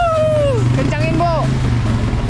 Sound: shout

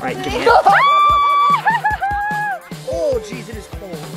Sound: mom cheering

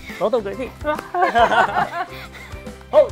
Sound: all laughing

